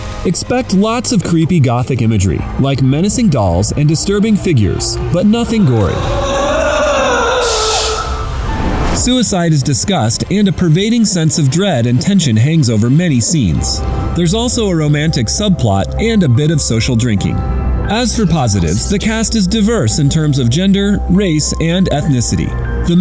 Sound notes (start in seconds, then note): 4.7 monster moaning